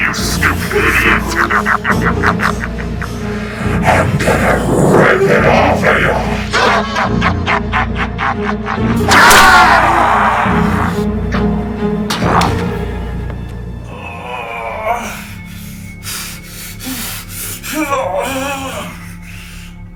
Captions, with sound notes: You stupid idiot. (Laughing) I'm gonna rip it off of you. (Laughing) (Henrietta screaming) (Larry groaning)